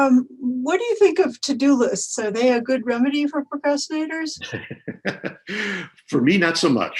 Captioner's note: laughs